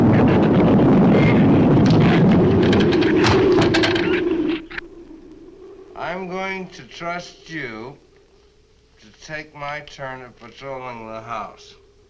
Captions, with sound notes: (branch cracks) (branch thuds) I'm going to trust you to take my turn at patrolling the house.